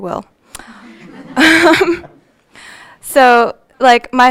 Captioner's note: audience laughing